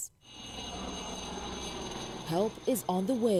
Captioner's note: speaking Foreign Language